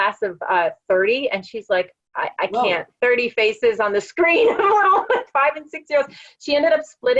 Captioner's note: laugh